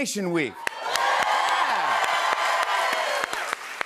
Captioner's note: cheers and applause